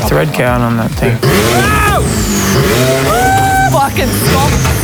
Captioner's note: engine revs; scream